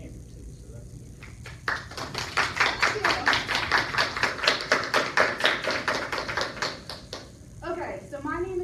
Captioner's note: applause